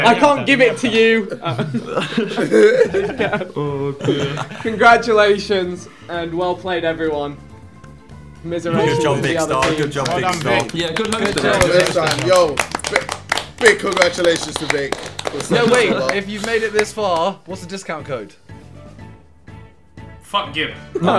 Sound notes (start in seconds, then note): 11.4 group applauding